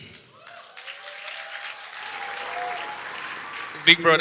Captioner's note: audience applause